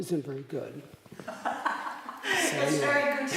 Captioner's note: laughter